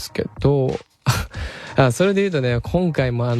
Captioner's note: laughs